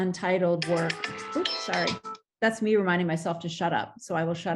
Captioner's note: alarm ringing